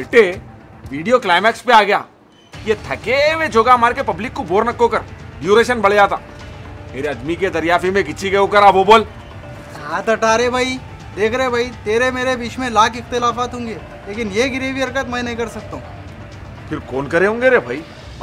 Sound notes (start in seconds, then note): 10.6 Aggressively